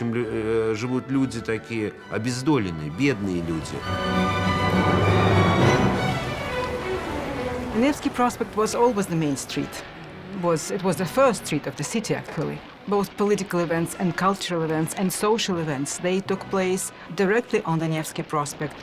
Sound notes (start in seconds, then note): 3.8 dramatic music; 7.8 woman, in English